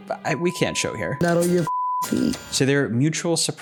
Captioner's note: beeping